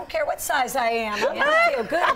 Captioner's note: laughing